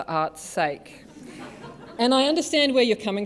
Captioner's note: laughter